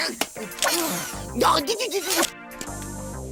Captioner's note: preyas hurted noises